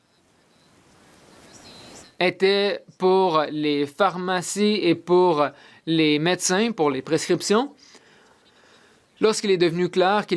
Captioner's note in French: voix de l'interprète